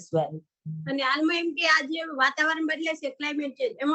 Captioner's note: non-english speech